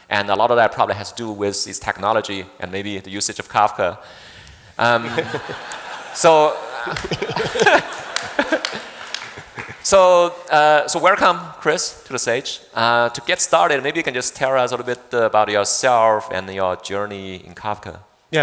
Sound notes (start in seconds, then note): 4.9 audience laughing; 7.4 laughing